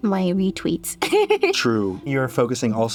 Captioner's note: laughs